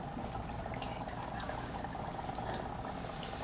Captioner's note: whispering